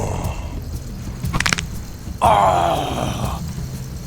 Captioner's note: skull cracking